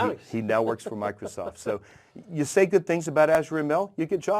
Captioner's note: laugh